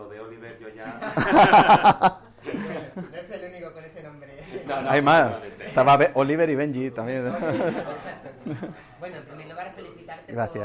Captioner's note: laughs